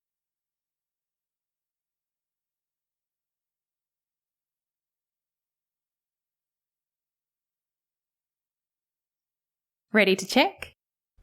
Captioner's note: 20 second pause